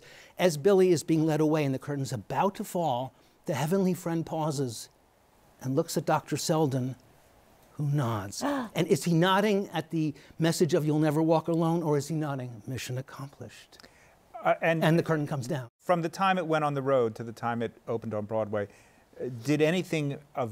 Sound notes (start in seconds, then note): 8.4 gasps